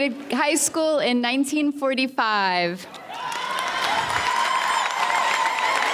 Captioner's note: audience cheers